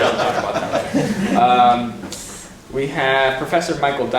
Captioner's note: laughing